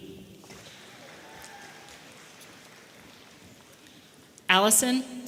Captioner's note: audience applauding